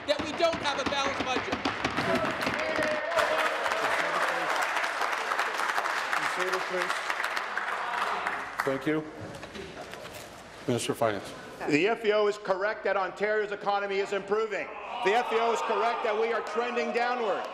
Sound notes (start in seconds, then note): 5.6 applause